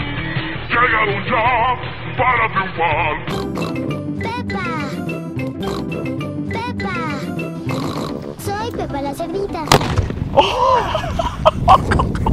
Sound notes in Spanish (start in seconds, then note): 2.1 Sonidos de cerdo; 7.6 sonidos de cerdo; 7.6 sonidos de cerdo X2; 9.7 Explosion; 10.4 risas